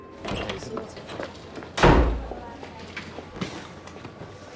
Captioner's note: door slams